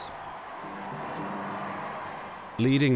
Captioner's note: crowd cheering